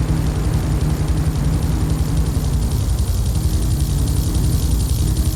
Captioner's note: plane engine roaring